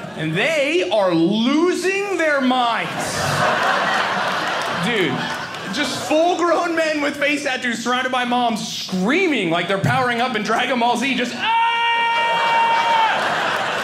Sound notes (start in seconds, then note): 2.3 audience laughing; 11.4 screaming